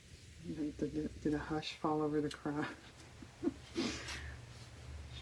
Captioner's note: laughs